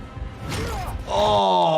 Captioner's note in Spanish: persona se queja